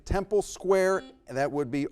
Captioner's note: buzzer blaring